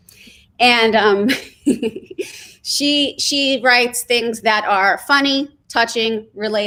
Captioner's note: laughs